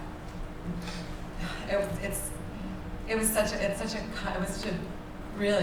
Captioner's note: sighs